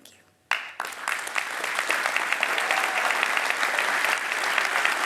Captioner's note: audience applauds